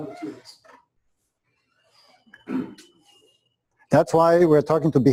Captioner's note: pause